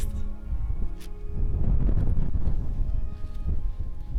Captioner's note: wind blowing